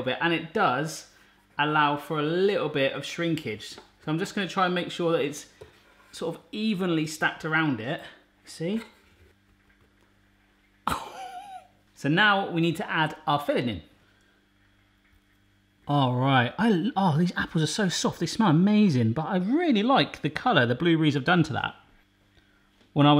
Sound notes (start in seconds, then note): 10.9 laughing